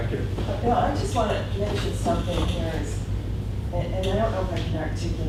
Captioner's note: voiceover